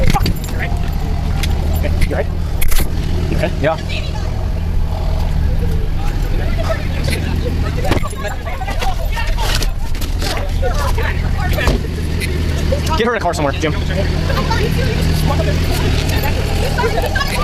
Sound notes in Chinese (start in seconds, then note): 5.1 争吵、打电话的声音，此起彼落，夹杂着急救过程中的交谈声